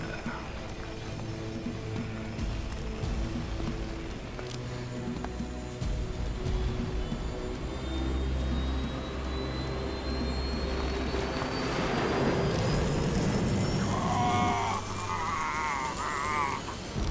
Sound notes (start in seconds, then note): 0.2 dramatic music; 10.8 screaming